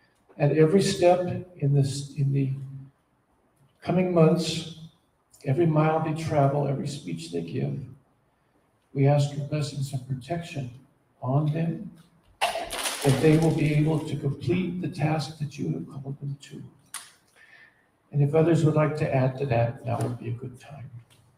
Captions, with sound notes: at every step in this, in the coming months; every mile they travel, every speech they give. We ask your blessings and protection on them, [Clattering] that they will be able to complete the task that you have called them to. And if others would like to add to that, now would be a good time.